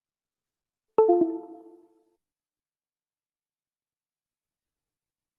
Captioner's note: computer chiming